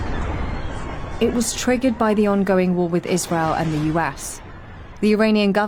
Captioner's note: explosion